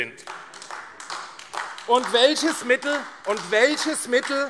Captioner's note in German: Beifall AfD - Zuruf SPD: Unverschämtheit! - Unruhe